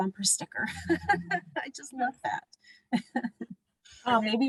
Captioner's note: laughter